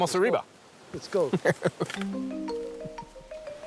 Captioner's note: laughs